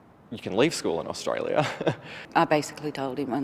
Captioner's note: chuckles